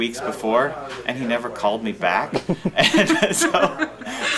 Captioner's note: laughing